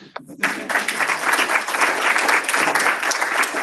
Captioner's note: applause